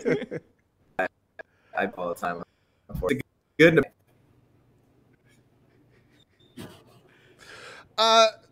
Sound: laughs

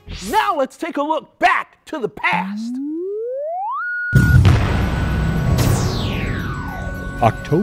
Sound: sound Effects

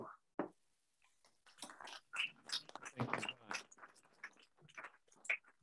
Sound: applause

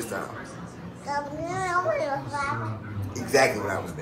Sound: baby babbles

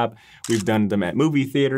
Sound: camera shuttering

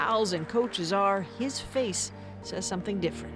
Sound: applause

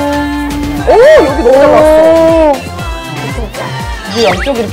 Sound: dolphin sound whenever the iron comes out

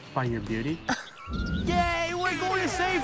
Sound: laughter

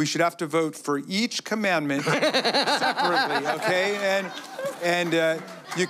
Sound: laughter

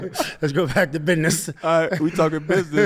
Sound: laughs

